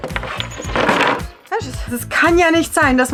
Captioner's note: in Swiss German